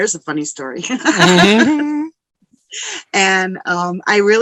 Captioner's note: laughing